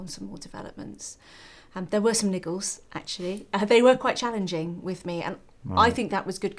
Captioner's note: laugh